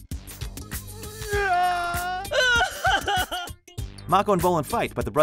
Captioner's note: crying